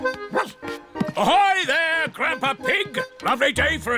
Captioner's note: barks